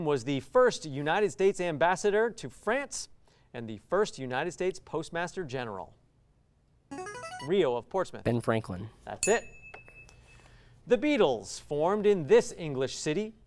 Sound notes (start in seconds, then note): 5.2 ring-in sound; 9.2 ding sound